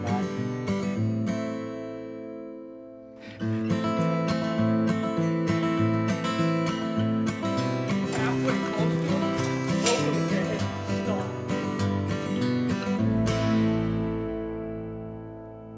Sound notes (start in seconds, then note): 0.2 calming acoustic music; 3.8 cheerful acoustic music; 3.8 trainer rustling